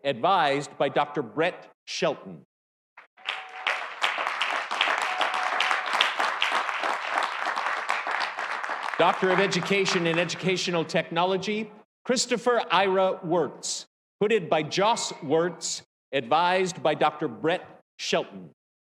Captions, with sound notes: advised by Dr. Brett Shelton. (audience cheering) (audience applauding) Doctor of Education in Educational Technology, Christopher Ira Wertz, hooded by Joss Wertz, advised by Dr. Brett Shelton.